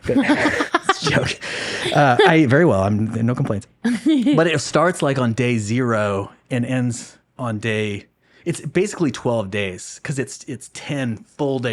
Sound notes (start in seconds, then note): 0.0 laughing